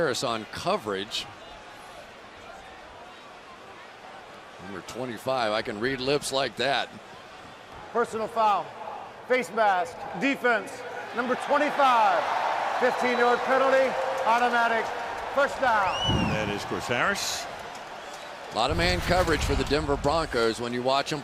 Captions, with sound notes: Chris Harris on coverage. Number 25, I can read lips like that. Personal foul, face mask, defense, number 25. [cheering] 15-yard penalty, automatic first down. That is Chris Harris. A lot of man coverage for the Denver Broncos.